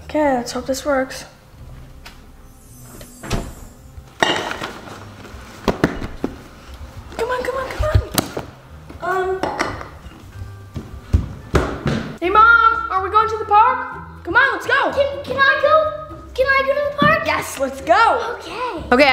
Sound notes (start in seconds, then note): 2.4 sparkling; 2.7 door closing; 10.2 heavy footsteps